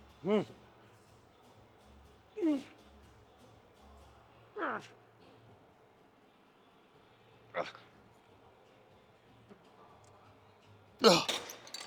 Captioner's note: grunting